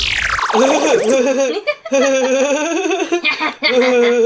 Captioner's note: techno tones; laughing